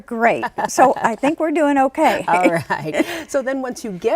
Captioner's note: laughs